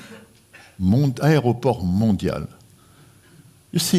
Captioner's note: speaking french